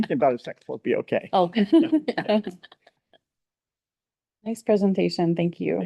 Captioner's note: laughing